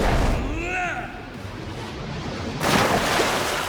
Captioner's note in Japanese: うめき声